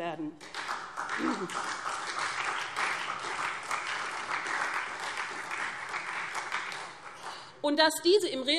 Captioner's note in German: Beifall SPD